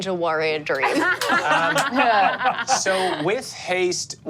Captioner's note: laughs